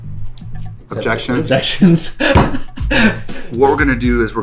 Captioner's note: laughs